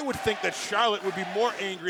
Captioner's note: crowd cheering